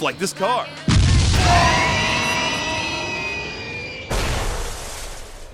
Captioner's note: Puar and Yamcha scream